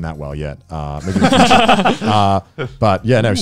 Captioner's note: laugh